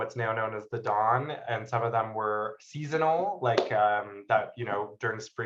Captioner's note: claps